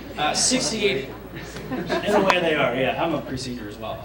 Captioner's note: laughter